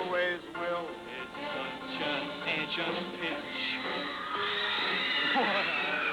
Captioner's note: cheers and applause